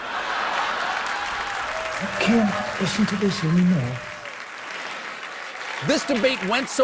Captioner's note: laughter